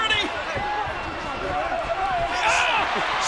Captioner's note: all chattering